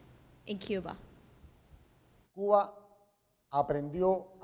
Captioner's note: speaking in Spanish